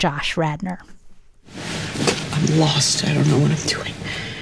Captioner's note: soundbite of tv show, "fleishman is in trouble"